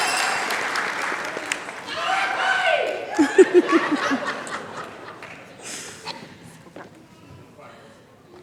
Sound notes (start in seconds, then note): 3.1 laughter